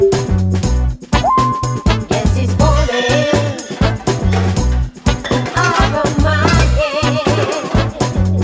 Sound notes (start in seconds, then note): 2.8 pots clattering